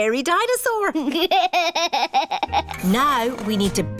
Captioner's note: chuckles